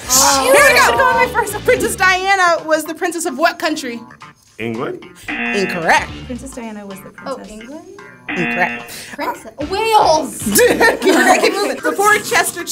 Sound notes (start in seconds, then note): 10.4 all laugh